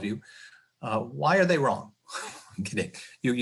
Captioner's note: chuckling